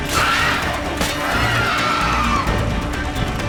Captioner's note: shriek